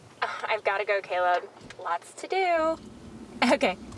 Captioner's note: chuckles